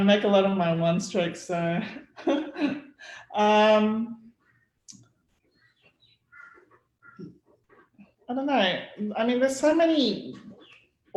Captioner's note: chuckles